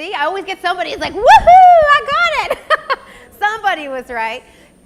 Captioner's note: laughs